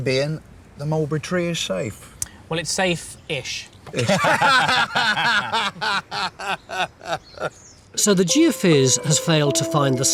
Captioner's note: laughing